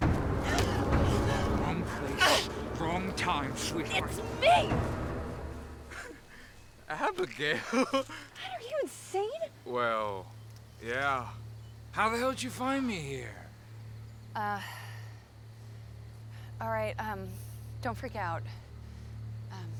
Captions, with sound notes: (suspenseful music) - Wrong place, wrong time sweetheart! - It's me! (Noah chuckles) - Abigail! - God, are you insane? - Well, yeah. How the hell did you find me here? - All right, don't freak out.